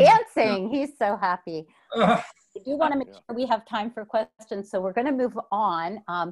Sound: laughs

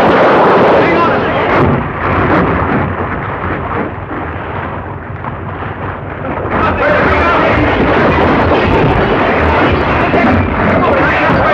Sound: crash

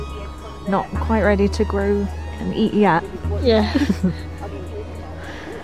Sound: laughs

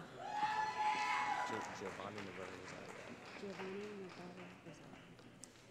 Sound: cheering

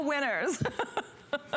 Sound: laughter

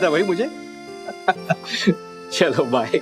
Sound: laughing

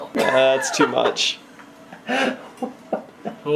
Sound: laughs

